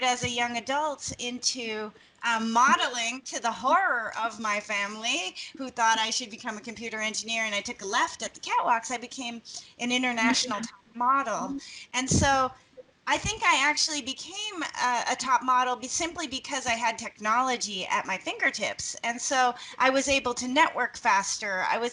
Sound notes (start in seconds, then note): 10.2 laughing